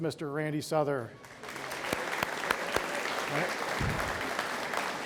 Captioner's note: audience applauds